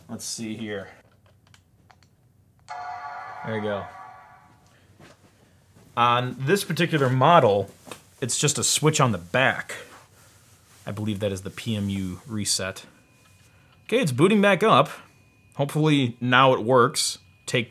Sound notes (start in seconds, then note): 2.7 computer dings